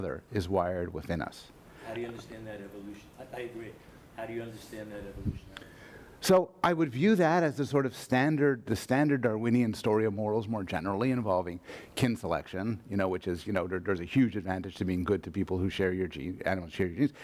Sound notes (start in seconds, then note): 2.0 voiceover; 5.8 voiceover